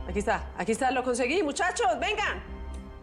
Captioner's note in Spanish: Tecleo